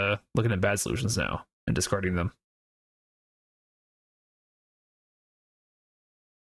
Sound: silence

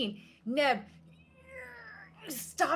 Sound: Deborah grunts

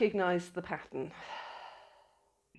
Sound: deep sigh

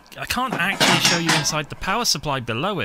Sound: crash

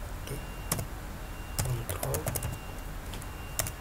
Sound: keyboard Sound

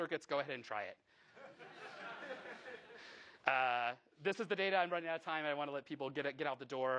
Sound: laughing

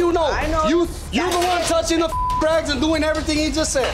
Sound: beeping

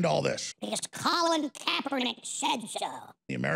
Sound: Alex Jones, in a high-pitched voice

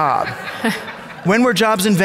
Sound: audience laughing

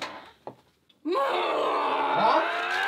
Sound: screaming

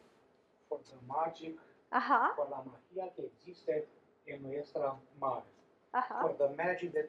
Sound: speaking spanish

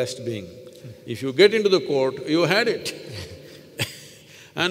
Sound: laughs

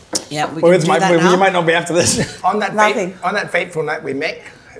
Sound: laughs

